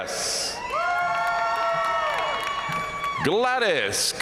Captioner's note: audience cheering and applauding